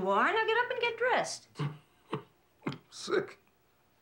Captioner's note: coughs